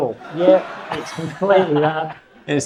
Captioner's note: audience laughs